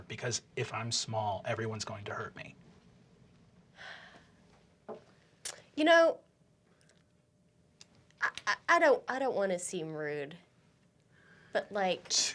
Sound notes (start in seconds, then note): 3.8 sighs